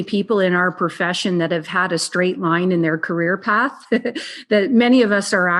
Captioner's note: laughs